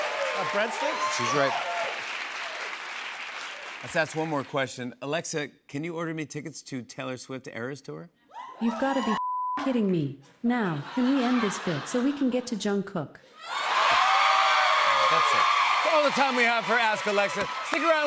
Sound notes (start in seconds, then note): 13.4 cheers and applause